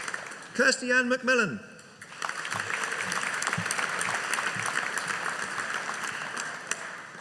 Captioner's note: audience applauding